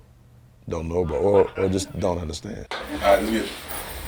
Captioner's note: people laughing